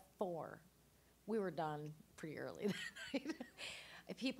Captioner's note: laughing